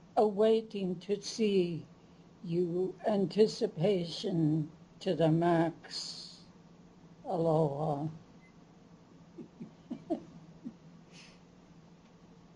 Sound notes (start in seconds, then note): 9.4 chuckles